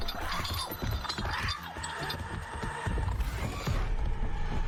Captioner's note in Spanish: el monstruo chilla